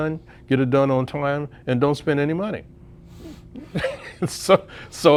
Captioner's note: laughs